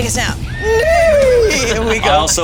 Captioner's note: horse neighing